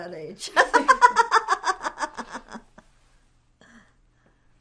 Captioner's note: laughing